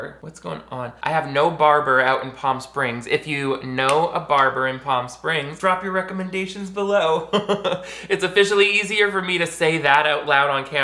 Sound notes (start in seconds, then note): 7.2 giggles